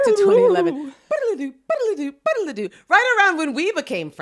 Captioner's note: imitating siren